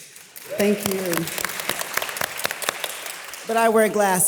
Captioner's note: audience applause